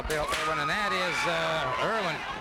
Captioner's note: whip cracking